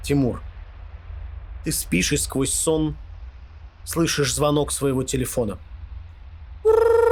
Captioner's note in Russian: Звук телефона